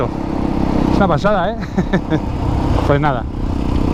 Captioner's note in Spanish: risas